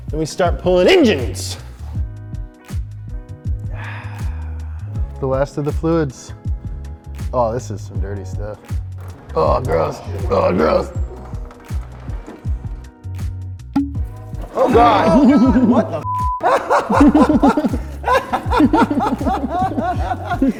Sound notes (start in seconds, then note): 2.6 upbeat music; 11.5 upbeat music continues; 13.9 lid opening; 15.9 beep; 16.7 crew laughing